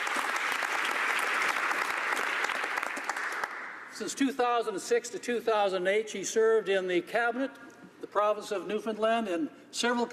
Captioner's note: applause